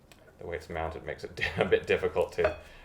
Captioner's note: chuckles